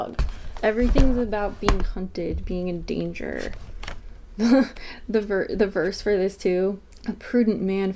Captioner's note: laughs